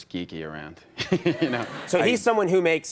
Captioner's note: audience laughs